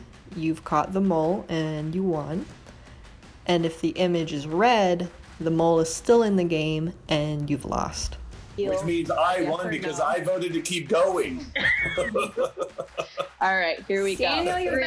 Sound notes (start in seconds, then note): 11.4 laughing